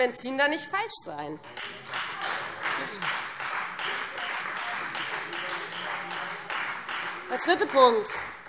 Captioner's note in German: Beifall